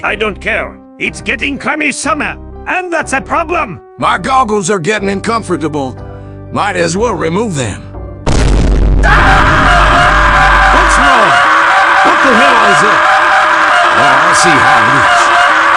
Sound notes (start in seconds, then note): 8.2 Vine Boom; 9.0 Ladd and Spence screaming